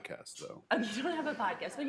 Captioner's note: laughter